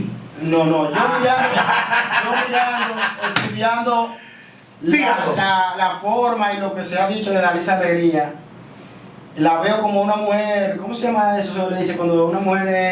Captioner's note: laughs